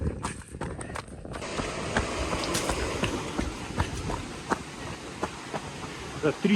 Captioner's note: sound of a waterfall